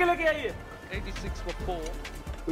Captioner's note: TV playing